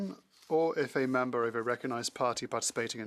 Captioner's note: speaking French